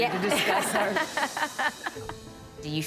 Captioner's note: laughter